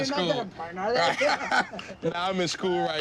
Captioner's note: laughter